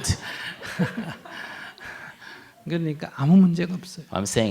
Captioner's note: /Audience laughter